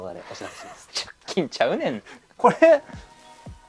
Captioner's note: laughs